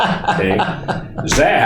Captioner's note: laughing